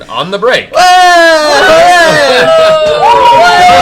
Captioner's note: cheering